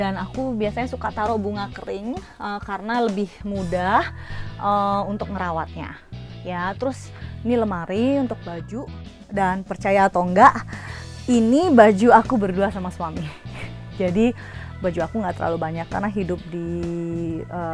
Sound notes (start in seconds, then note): 13.1 laughs